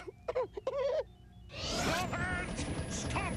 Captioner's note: giggles